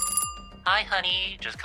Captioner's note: phone ringing